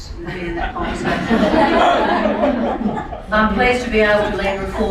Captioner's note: laughing